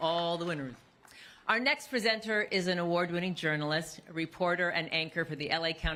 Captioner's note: applause